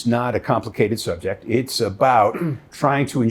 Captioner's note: clearing throat